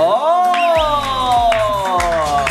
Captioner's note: clapping automatically